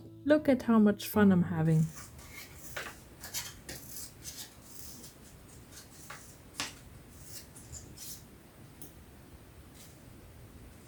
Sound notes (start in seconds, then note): 3.7 very fun silence